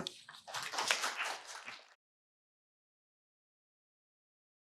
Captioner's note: audience applauds